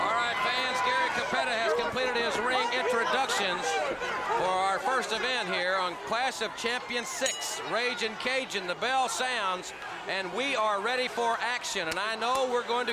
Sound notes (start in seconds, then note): 0.0 crowd cheering; 7.2 bell ringing